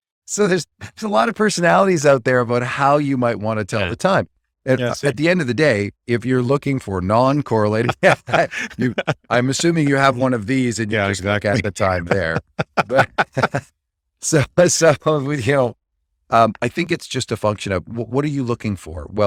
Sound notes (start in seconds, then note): 7.7 laughs; 15.7 laughs